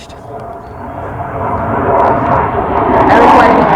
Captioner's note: very Loud Jet Noise Interrupts